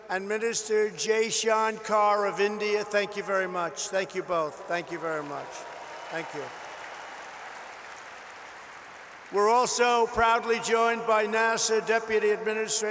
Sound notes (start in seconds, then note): 8.0 applause